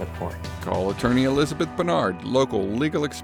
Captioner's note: voice-over